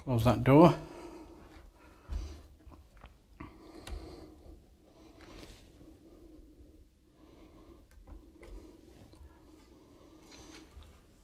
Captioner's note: silence